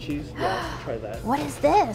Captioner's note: gasps